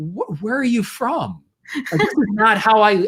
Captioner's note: laughs